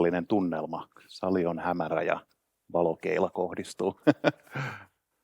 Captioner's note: laughs